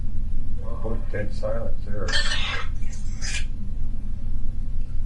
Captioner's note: EVP warbles